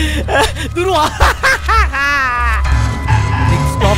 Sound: Prathik laughs loudly

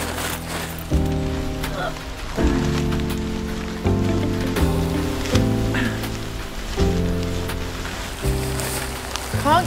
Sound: struggling noises

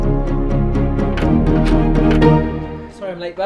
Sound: key Turning In Lock

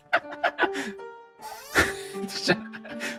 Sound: creak

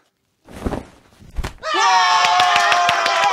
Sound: hat turbulence; all yell; claps

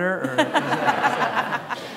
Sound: laughter

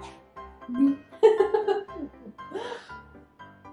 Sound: laugh

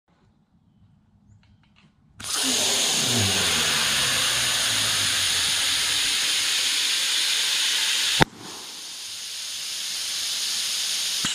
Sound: balloon Noises

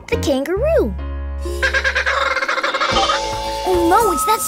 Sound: squawking

